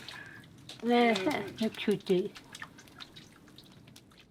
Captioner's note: foreign spoken audio